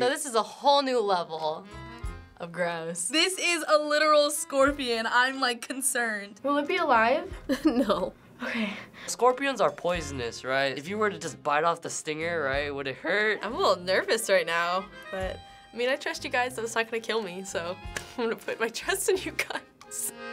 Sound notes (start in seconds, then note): 7.4 FBE, chuckling